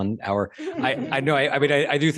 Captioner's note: laughter